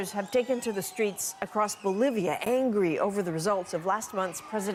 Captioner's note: cheers and Applause